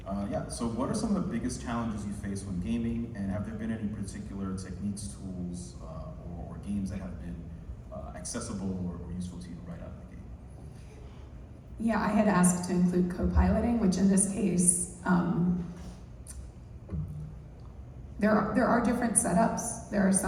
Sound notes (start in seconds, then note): none